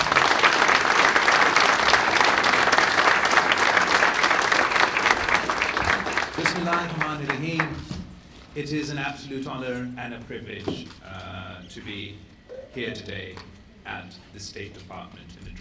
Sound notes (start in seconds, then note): 3.6 applause; 6.8 in Urdu